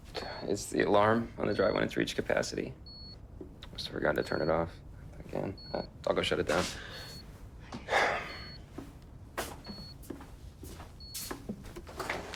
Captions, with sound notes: - It’s the alarm on a drive when it’s reached capacity. Must’ve forgotten to turn it off again. Uh, I’ll go shut it down. (beeping)